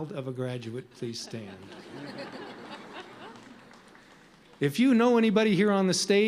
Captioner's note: audience chuckles